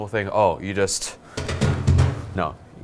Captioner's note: exaggerated pounding